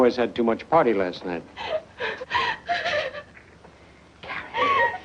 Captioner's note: sobbing